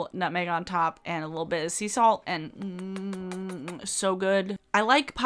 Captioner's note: kisses